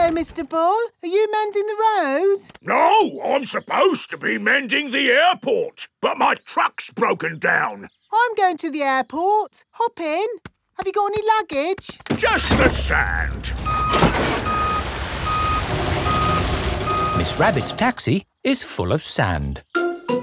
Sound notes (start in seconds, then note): 12.5 beeping